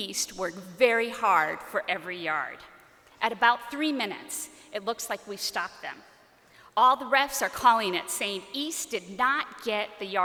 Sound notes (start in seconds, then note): none